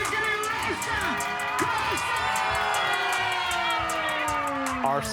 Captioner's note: crowd cheering